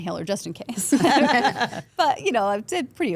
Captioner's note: all laughing